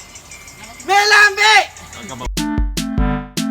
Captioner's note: shouting